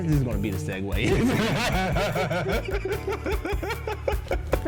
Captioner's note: both laugh